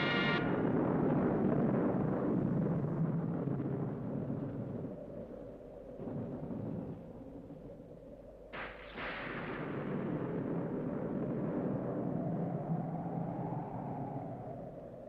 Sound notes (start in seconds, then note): 1.7 Раскаты грома